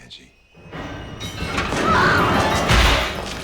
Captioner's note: screams